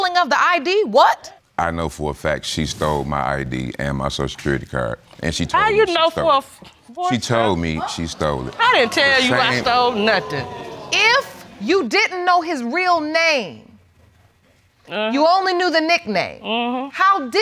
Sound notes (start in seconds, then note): 8.9 audience exclaiming